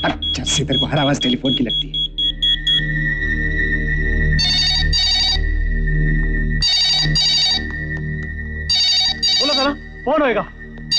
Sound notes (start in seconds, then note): 2.2 pager ringing; 4.3 phone ringing